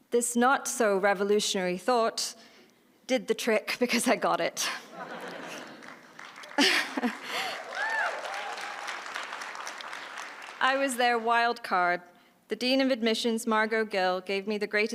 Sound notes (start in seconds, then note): 4.9 laughter and applause